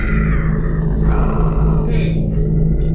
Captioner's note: growling